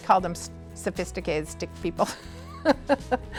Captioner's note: laughs